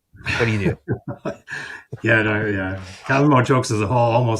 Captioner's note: chuckles